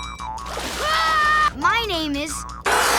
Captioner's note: screaming